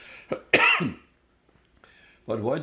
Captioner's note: coughing